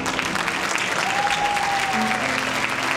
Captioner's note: cheering